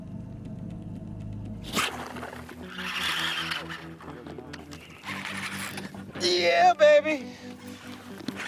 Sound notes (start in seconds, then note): 1.7 line reeling